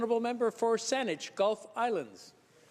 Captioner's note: speaking French